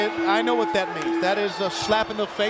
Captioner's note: bell ringing